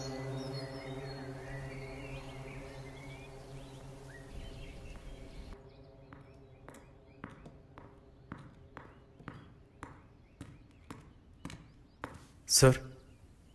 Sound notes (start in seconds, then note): 6.0 Footsteps approaching